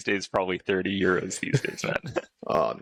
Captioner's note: laughter